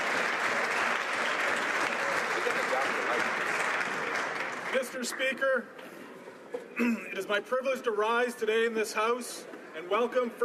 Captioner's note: some Applause